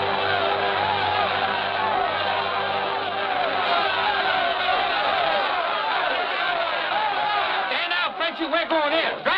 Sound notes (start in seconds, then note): 3.4 overlapping shouting